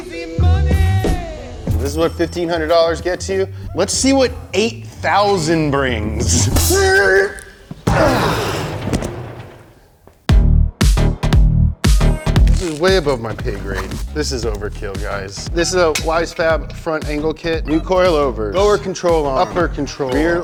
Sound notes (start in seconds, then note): 7.8 box banging; 10.3 upbeat music